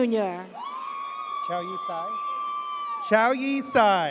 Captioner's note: audience cheers